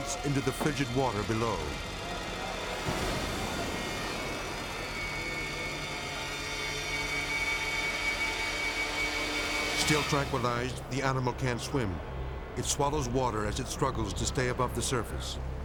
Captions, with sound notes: into the frigid water below. (water splashes) (ominous music) Still tranquilized, the animal can't swim. It swallows water as it struggles to stay above the surface.